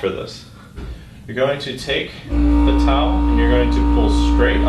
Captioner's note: buzzing